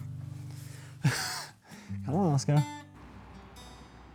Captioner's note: chortles